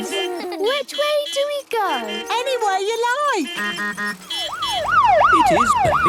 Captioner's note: laughter; honking, siren wailing